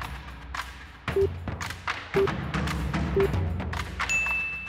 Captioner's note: snappy music; timer beeping; bell dings